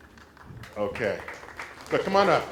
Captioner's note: applause